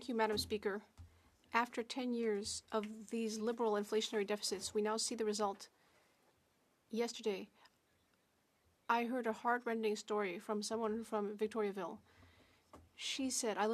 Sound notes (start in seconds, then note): 3.7 speaking French